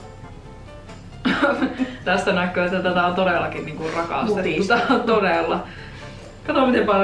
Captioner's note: laughs